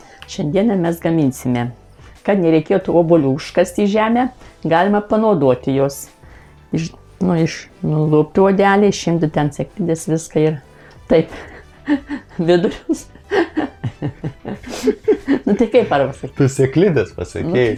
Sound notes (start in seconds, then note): 13.2 both laughing in Lithuanian